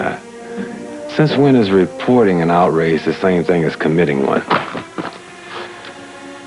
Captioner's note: paper crumpling